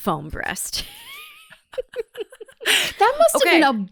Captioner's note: both laugh